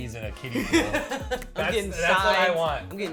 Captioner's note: laughs